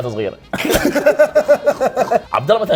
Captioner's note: both laughing